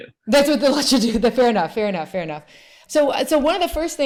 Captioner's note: laughs